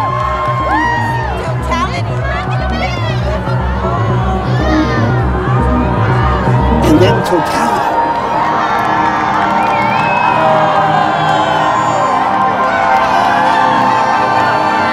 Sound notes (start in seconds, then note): 0.0 all cheering; 2.6 mysterious music; 8.5 all cheering